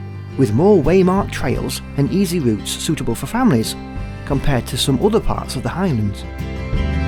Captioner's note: sound of river